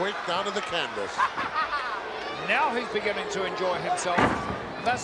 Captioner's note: laugh